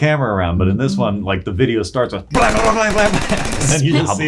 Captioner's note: imitating gunfire